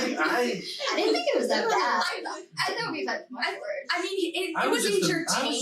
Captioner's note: group chattering